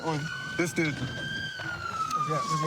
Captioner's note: siren wailing